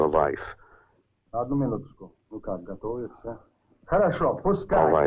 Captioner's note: all speaking in Russian